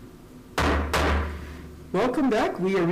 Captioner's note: gavel slamming